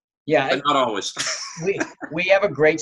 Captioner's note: laughing